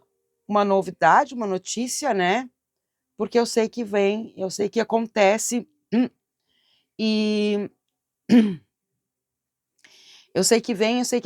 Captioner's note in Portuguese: limpando a garganta